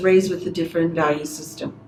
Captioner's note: speaks Spanish